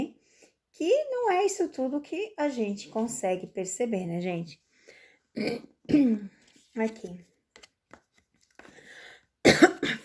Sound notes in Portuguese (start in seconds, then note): 5.4 limpando a garganta